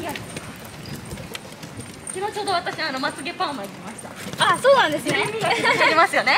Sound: laughs

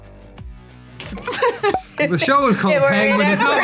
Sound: laughing

